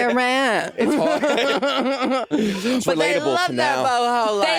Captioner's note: Jinkx laughing